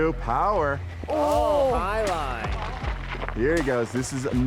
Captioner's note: all groan